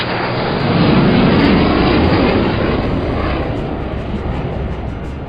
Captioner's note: plane engine roars